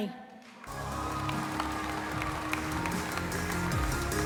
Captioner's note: cheering, applause; inspiring music plays